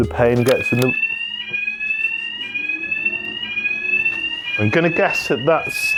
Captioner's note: fire alarm